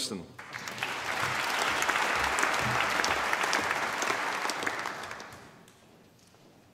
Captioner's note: applause